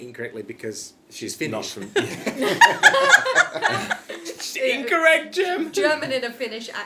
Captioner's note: laughing